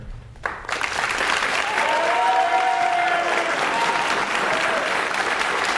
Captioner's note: audience cheers and applauds